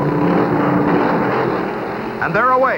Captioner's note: engines revving